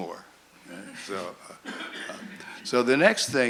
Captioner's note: laughter